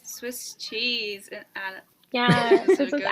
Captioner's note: laughs